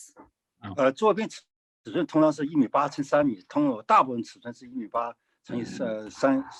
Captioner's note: speaking in foreign language